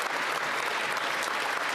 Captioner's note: some Applause